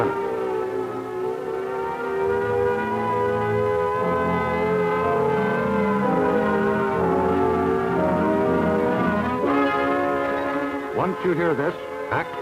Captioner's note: siren blaring